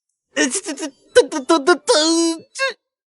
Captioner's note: beep beep beep beep